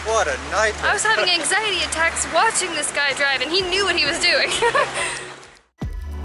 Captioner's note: giggles